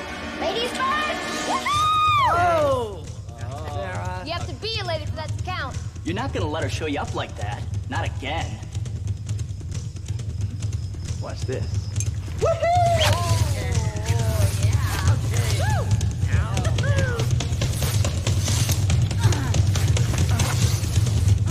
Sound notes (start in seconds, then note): 14.0 indistinct chatter; 19.0 suspenseful music